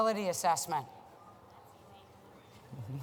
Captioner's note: chatter and laughter